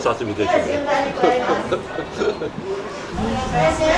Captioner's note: laughter